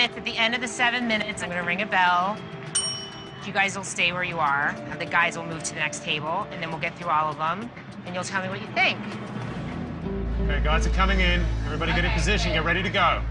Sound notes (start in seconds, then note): none